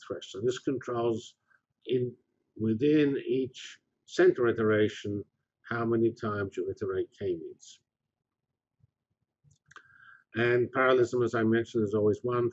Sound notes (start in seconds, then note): 7.7 pause